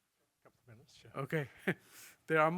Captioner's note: laughs